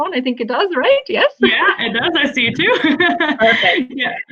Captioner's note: laughter